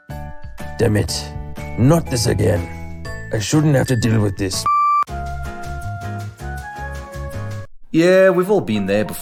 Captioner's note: beep